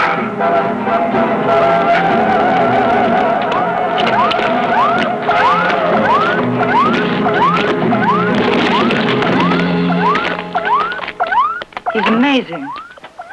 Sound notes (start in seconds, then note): 0.2 dramatic music; 4.9 dramatic music; 4.9 electronic beeping